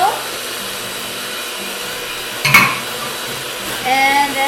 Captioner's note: mixer whirs